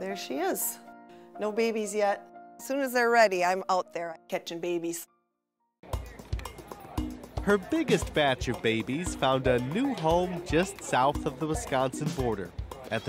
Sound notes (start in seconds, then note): 6.3 voiceover